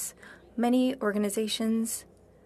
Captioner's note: speaking French